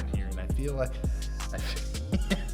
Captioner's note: laughs